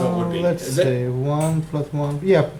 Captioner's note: voiceover